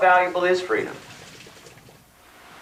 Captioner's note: rain stops